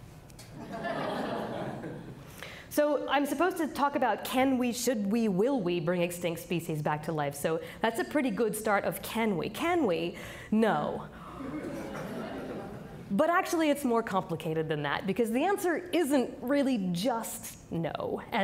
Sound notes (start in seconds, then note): 0.6 audience laughing; 11.3 audience laughing